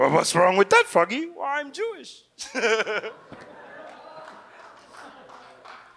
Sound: chuckles; audience laughs

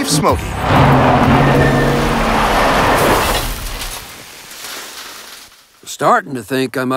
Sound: tires skidding

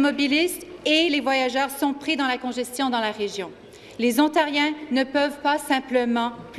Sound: speaking French

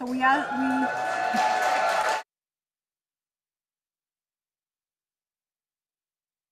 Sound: audience cheering and applauding

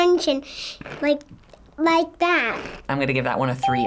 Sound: toy crunches

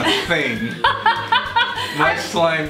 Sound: laughter

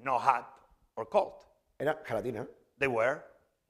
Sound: speaking spanish

